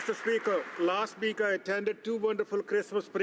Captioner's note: some Applause